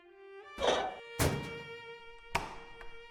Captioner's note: door hatch closed